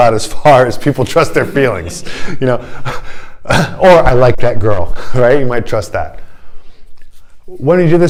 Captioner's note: laughter